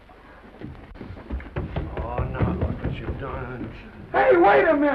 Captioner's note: feet running up stairs